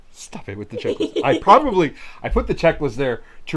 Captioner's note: chuckles